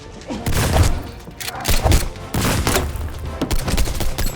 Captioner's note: gun firing